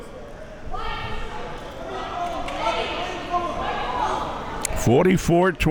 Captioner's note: spectators chattering